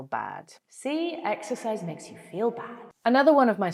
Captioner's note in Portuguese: voz com eco